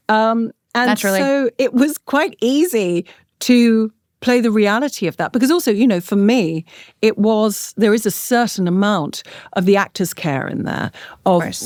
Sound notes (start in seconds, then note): none